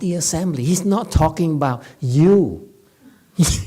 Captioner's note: laughs